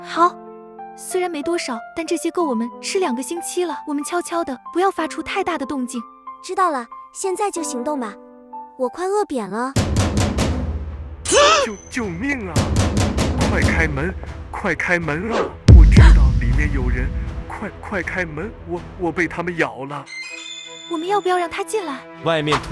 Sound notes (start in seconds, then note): 10.2 sudden frantic knocking